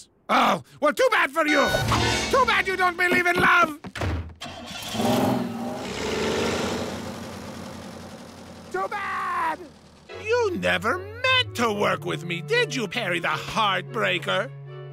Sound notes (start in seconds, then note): 3.9 door slams; 4.4 engine starts